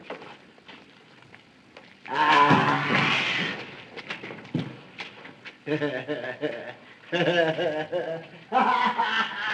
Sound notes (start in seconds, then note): 3.4 growls; 7.2 laughs